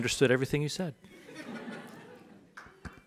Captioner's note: audience laughs